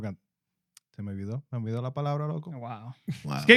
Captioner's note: speaking Spanish